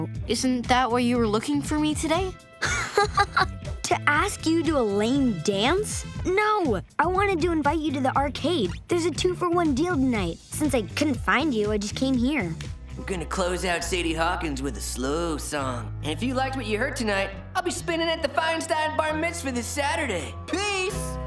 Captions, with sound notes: Isn't that why you were looking for me today? [laughing] To ask you to a lame dance? No. I wanted to invite you to the arcade. There's a two for one deal tonight. Since I couldn't find you, I just came here. I'm gonna close out Sadie Hawkins with a slow song. And if you liked what you heard tonight, I'll be spinning at Feinstein Bar Mitzvah this Saturday. Peace!